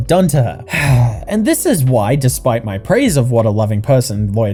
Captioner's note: sigh